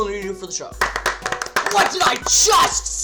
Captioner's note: applause